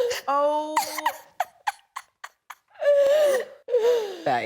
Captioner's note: laughs